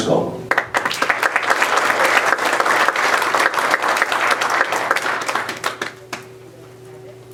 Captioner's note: applause